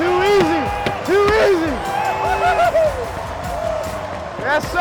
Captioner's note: sticks clacking